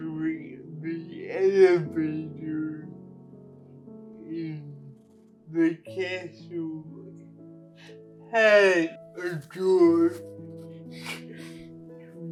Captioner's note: laughs